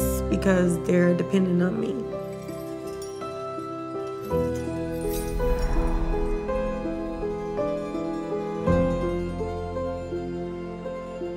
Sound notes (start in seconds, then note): 2.2 chains clinking; 8.6 dreamy music